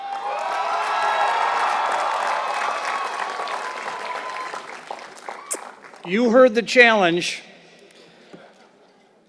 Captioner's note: applause